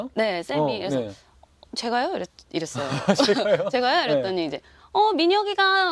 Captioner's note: laughther